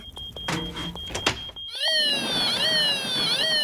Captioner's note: toy s siren waiails